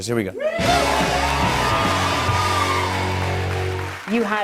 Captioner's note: cheers and applause